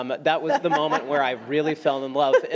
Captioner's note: laughs